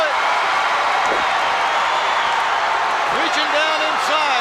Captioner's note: crowd shout